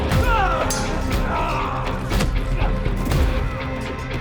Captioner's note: all moaning